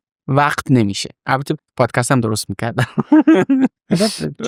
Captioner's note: laughs